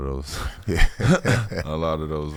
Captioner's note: laughing